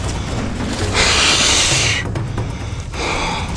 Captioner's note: whew